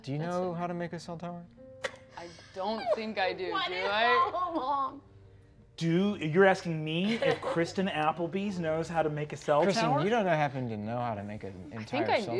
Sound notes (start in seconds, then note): 3.5 players laughing